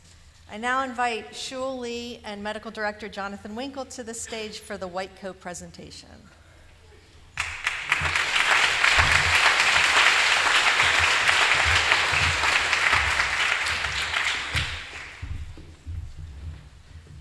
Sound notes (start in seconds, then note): 7.3 applause